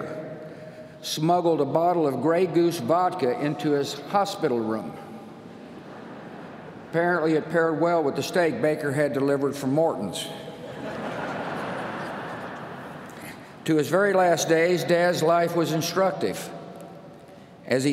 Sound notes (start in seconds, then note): 10.6 laughter